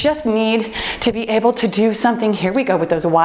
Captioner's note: timer beeps